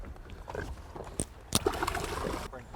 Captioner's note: splash